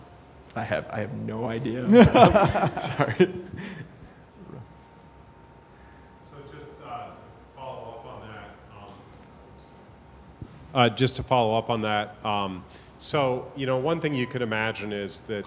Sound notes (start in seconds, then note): 1.8 laughter